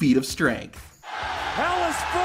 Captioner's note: crowd cheering